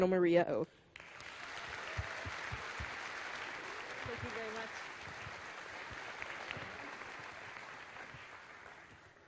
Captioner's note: applause